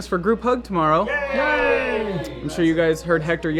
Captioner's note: cheering